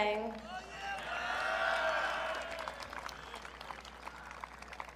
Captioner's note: audience cheering